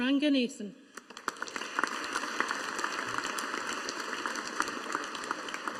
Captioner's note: audience applauding